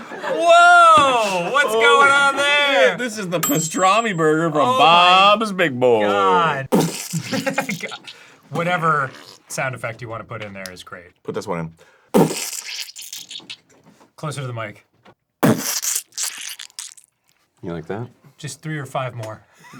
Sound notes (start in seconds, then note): 6.7 wet squelchy sounds; 12.1 wet squelchy sounds pt.2; 15.4 wet squelchy sounds pt.3